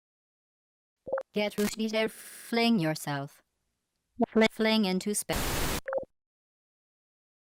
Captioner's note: bzzzzzt